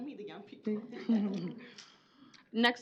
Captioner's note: laughter